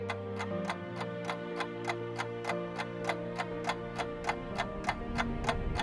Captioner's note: camera reel clicking